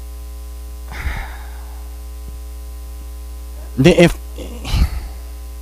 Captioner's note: sighs